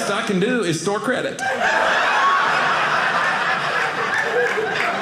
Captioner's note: audience laughing